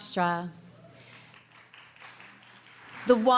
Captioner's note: small applause